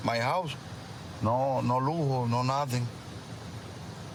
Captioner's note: speaking spanish